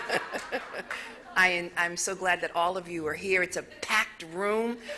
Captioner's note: laughter